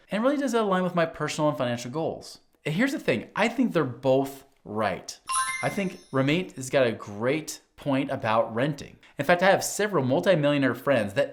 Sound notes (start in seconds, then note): 5.2 bell ringing